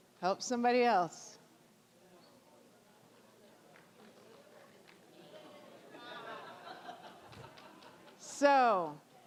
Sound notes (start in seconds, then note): 1.9 general chatter